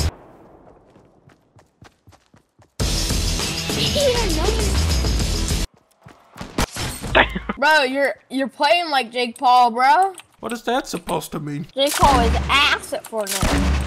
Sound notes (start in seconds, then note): 0.2 music stops; 5.7 music stops; 7.1 laughing